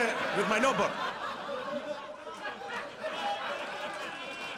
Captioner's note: audience laughs